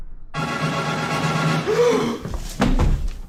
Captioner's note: gasp